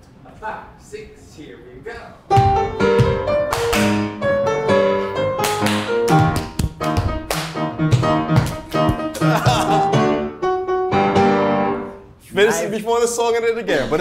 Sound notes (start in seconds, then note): 2.1 classical music; 3.4 hands clapping; 6.0 feet stomping; 6.1 classical music